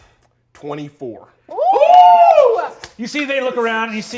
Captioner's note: all cheering